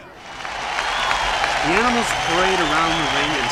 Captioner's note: crowd cheering